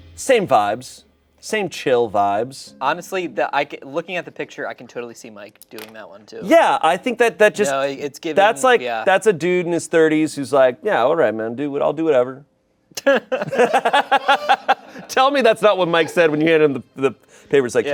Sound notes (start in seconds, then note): 13.0 everyone laughs